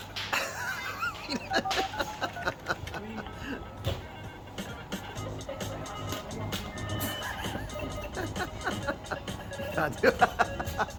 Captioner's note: laughter